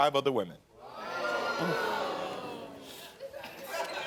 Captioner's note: audience reacting; scattered laughter